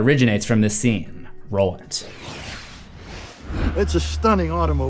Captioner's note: text swooshes